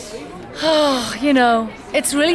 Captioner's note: sighs